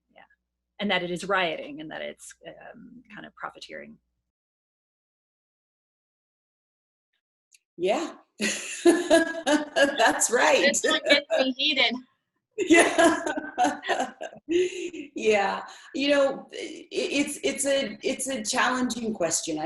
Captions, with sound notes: Yeah. And that it is rioting and that it's kind of profiteering. - Yeah. (laughs) That's right. - It's not getting hidden. - Yeah. (laughs) Yeah. It's a challenging question.